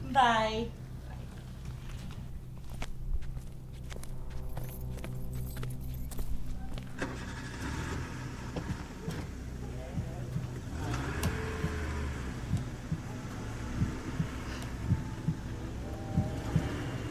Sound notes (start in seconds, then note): 6.9 car engine revving; 13.9 heartbeat thumping